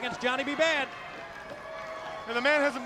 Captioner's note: crowd cheering